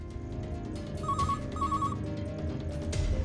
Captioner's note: phone ringing